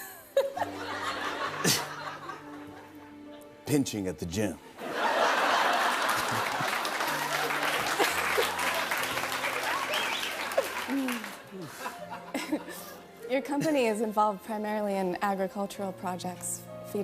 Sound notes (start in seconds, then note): 0.4 laughs; 5.1 laughter, applause